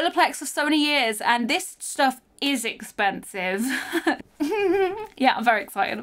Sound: laughs

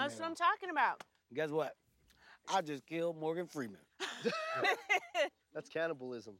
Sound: laughs

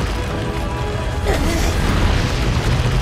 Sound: Link noises

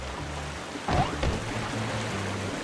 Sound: jump sound

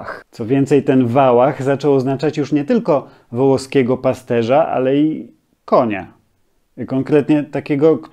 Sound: in Polish: "wałach"

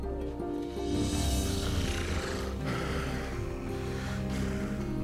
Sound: snoring

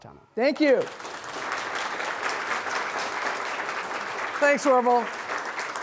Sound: audience applauds

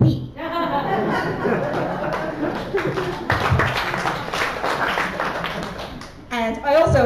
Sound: laughter and applause

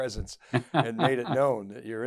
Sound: chuckles

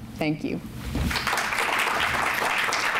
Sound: applause

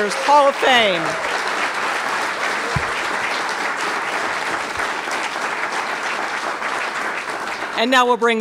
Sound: applause

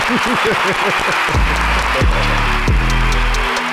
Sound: chuckles; recorded audience applauds; hip hop music

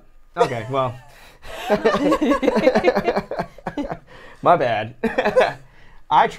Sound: everyone laughs

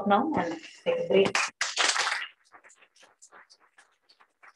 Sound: applause

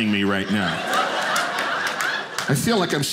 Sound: audience laughing

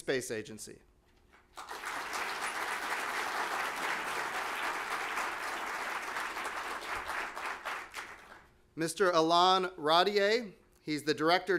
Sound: applause

